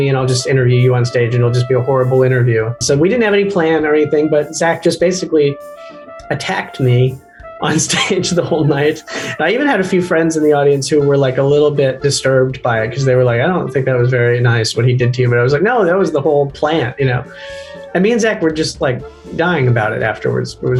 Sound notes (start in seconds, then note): 7.6 Michael laughs